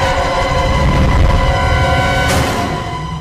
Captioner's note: scary Breathing